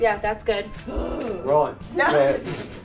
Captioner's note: roars